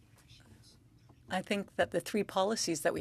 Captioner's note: speaking French